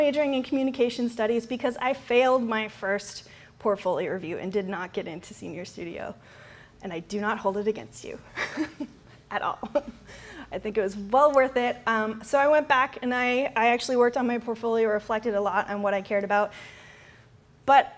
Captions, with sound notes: I ENDED UP DOUBLE MAJORING IN COMMUNICATION STUDIES, BECAUSE I FAILED MY FIRST PORTFOLIO REVIEW AND DID NOT GET INTO SENIOR STUDIO. AND, I DO NOT HOLD IT AGAINST YOU. [LAUGHTER] AT ALL. I THINK IT WAS WELL WORTH IT. SO, I WENT BACK, AND I ACTUALLY WORKED ON MY PORTFOLIO. REFLECTED A LOT ON WHAT I CARED ABOUT.